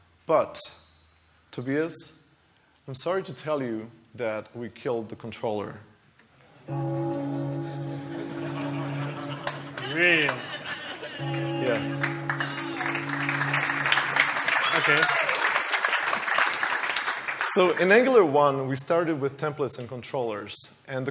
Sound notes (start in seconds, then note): 6.7 bell ringing; 6.9 audience laughter; 12.2 applause